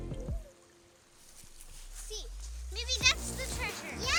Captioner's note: stream trickling